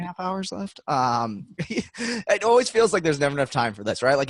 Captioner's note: laughing